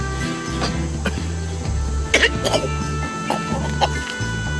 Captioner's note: coughing